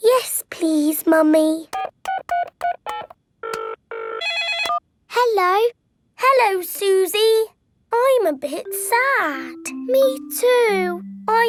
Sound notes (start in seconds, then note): 2.0 beeping; 3.4 phone ringing